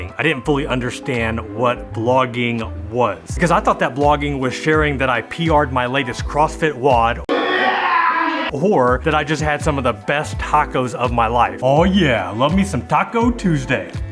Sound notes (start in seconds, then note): 7.3 men yelling